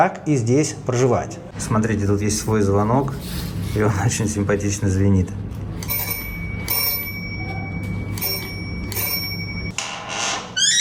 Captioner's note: bell sound